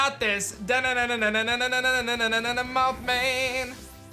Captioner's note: vocalizes